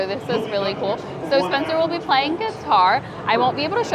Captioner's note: none